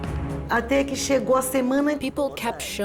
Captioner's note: speaking Portuguese